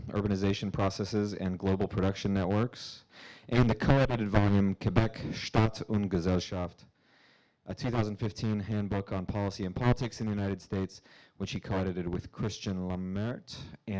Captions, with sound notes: "Urbanization Processes in Global Production Networks," and the co-edited volume, (speaking in foreign language) a 2015 handbook on policy and politics in the United States, which he co-edited with Christian Lammert